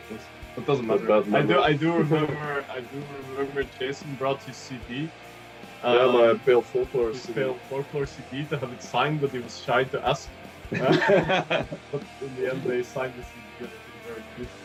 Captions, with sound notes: Но это не важно Зато я помню, что Джейсон притащил с собой CD Да, альбом "Pale Folklore" И он хотел чтобы Agalloch его подписали, но он постеснялся попросить *Смех* Но в конце концов, они его подписали, и было очень хорошо